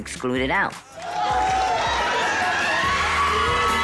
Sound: cheering

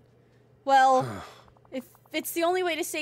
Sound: Kristoff Sighs

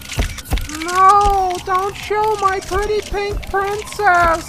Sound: zooming, snapshots; mumbling slowly

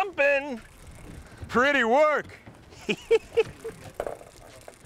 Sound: laughs

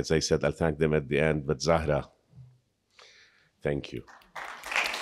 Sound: speaks Arabic; audience applauding

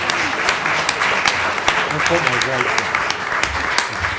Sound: applause

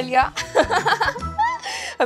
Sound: laughing

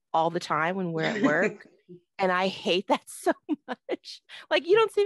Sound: laughs

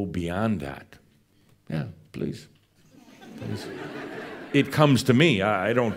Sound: some chuckles as coffee is handed to him

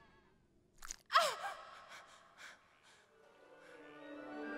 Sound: groaning

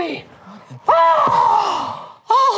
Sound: yells

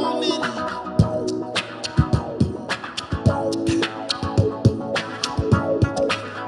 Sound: mouth percussion

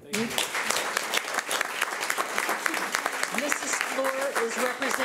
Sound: clapping

